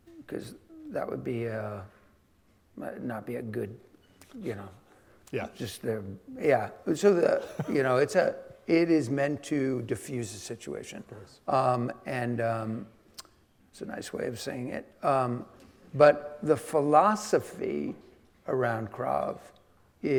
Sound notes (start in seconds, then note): 7.2 laughing